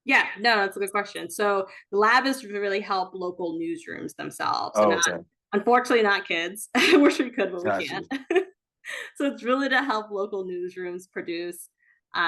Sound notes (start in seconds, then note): 7.6 chuckles